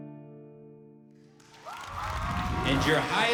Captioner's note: audience cheering